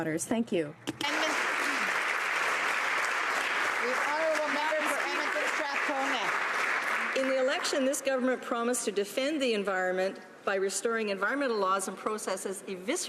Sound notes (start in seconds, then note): 6.8 some Applause